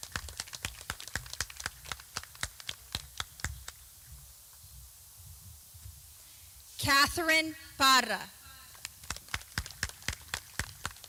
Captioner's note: clapping; clapping